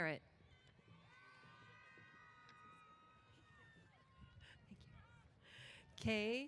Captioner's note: cheers